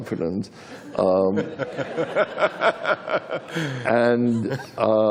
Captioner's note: laughter